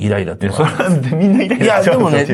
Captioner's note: laughs